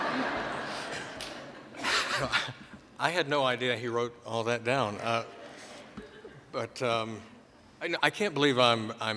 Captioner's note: laughter